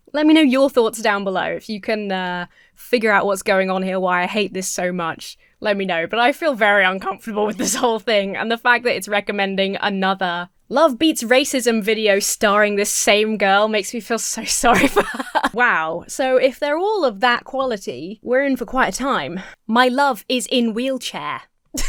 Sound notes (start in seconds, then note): 14.6 Emma laughs